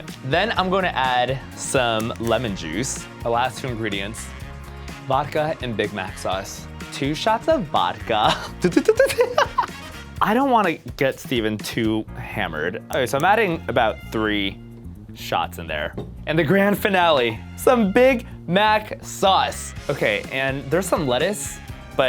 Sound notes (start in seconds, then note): 8.2 laughter